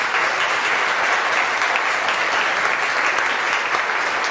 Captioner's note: audience applause